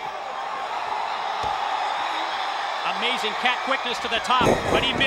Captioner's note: applause